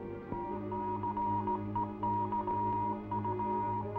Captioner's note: device beeping